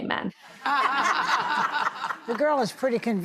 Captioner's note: laughing